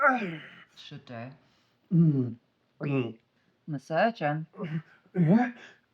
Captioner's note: Solent groans; Solent gulping liquor